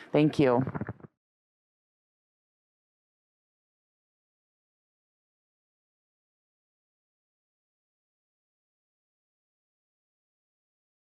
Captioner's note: silent